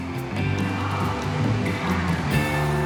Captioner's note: crowd chanting